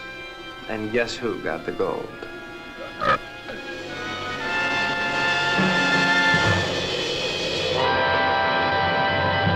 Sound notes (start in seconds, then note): 2.8 creature burping